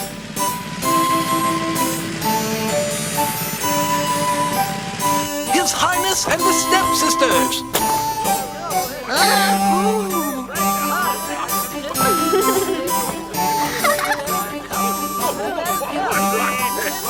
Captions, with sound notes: - His Highness and the stepsisters. (gasps) (laughing)